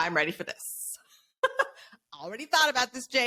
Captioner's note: laughs